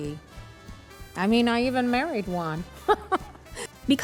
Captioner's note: laughing